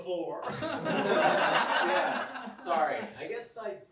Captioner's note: laughs